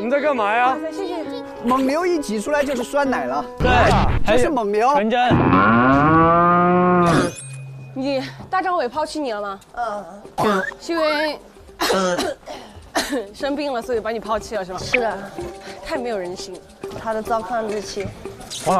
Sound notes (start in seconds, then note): 11.7 coughing